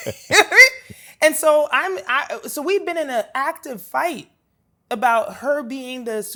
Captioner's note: laughs